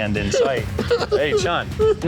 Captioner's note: mock sobbing